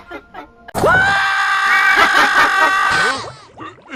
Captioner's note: Squidward Screams As Tails.EXE Kills Him